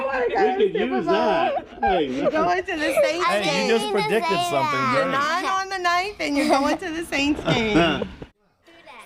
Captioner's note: laughter